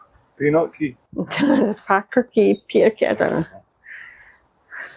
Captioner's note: laughter